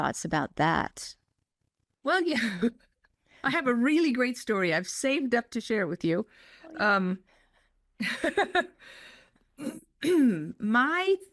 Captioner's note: laugh